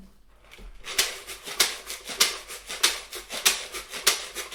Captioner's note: low shaking sounds